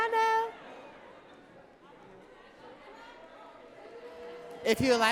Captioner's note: audience talking